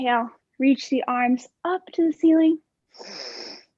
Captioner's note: inhaling